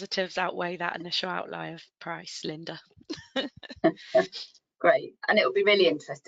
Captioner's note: laughs